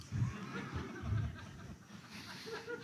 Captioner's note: laughter